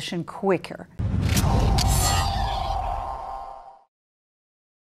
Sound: air swooshing

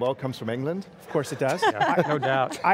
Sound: laughs

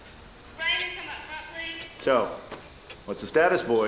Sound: clock ticking

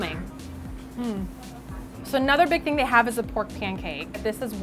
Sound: mmm

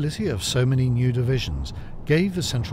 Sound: wind howls

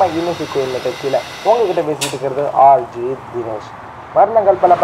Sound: radio plays

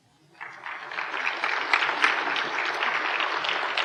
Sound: applause

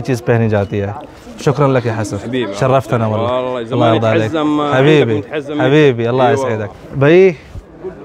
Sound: Arabic

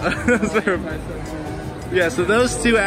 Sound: laughs

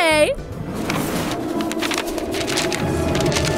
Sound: strong winds

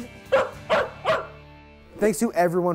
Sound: dog barks

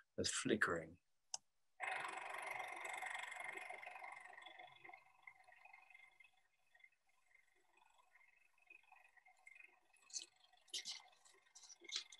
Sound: lights whirring

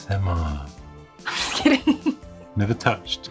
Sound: laughs

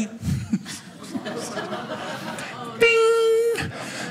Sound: audience laughing

